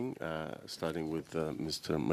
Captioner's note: speaking French